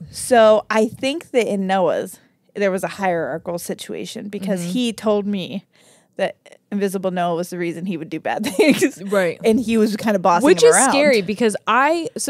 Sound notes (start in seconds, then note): 8.4 laughs